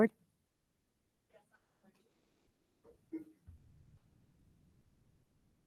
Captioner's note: speaking faintly